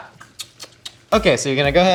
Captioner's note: clicks tongue